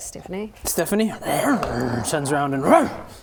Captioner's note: angry dog noises